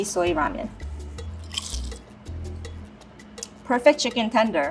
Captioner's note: chicken crunches